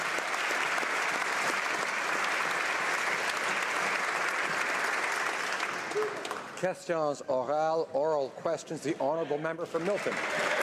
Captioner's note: applause